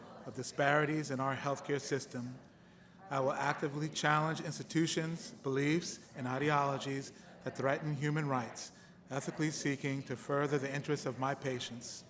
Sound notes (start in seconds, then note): none